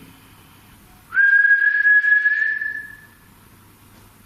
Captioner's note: whistling